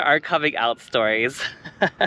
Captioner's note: giggles